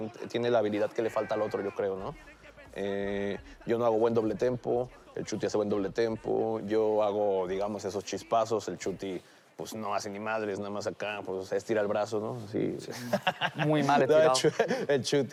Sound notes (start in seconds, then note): 12.8 laughs